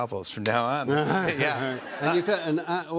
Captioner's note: laughter